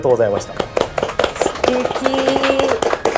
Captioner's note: applause